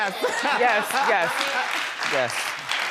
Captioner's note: audience applauding